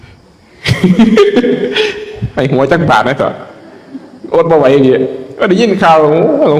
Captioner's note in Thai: เสียงหัวเราะ